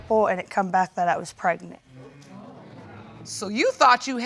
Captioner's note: audience exclaiming